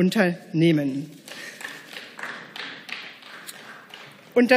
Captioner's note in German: Beifall